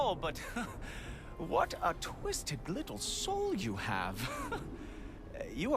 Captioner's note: laugh; laugh